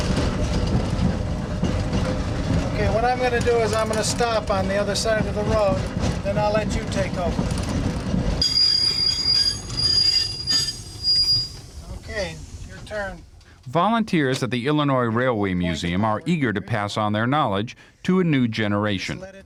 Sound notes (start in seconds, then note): 8.4 brakes screeching